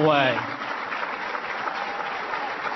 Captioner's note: applause